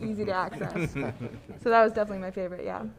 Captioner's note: panelists laughing